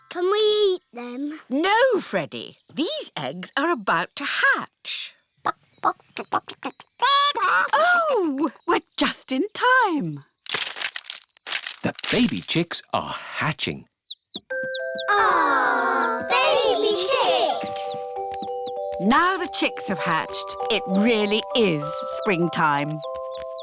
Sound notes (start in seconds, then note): 6.1 clucking; 13.9 chicks cheeping